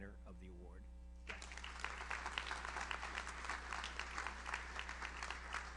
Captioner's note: audience applauds